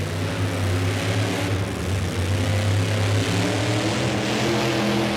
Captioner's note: engine roars and revs